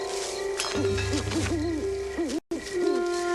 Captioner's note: owl hooting